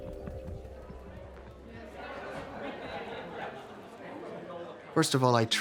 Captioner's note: crowd chatters softly